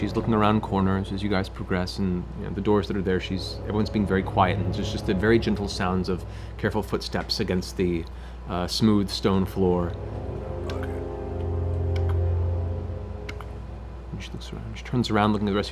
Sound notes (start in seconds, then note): 12.0 footsteps